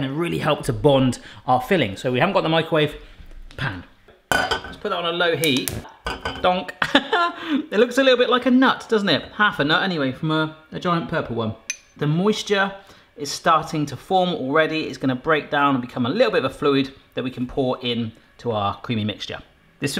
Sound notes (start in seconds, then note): 7.2 laughing